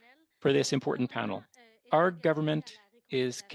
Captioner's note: speaking French